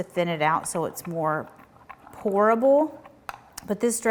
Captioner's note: spoon clanking